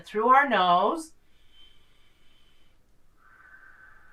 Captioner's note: inhales; exhales